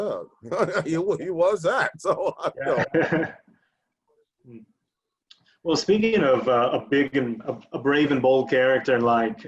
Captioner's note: laughing